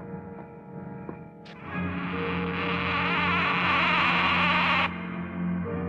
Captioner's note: door creaks